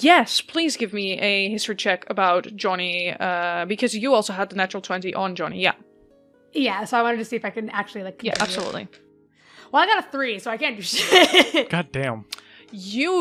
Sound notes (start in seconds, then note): 8.3 dice clacks; 11.4 laughs